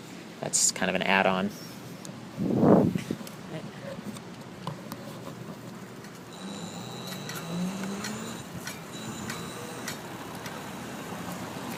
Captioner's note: motor whirring